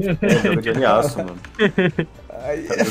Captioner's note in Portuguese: risos